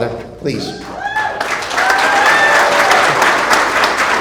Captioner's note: applause